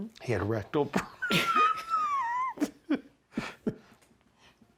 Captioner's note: laughs